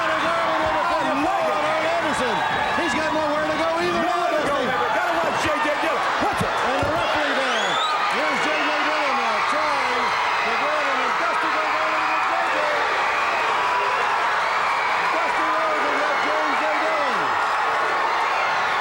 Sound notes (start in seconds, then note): 11.8 crowd cheering